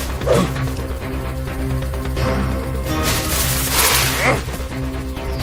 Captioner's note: electronic sizzling